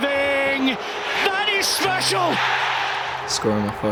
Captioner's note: crowd erupts